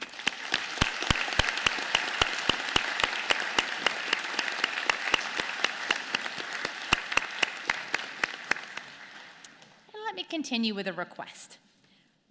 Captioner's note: applause